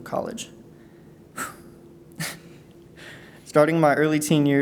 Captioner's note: exhales; chuckles